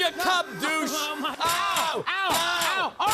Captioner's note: screaming, thudding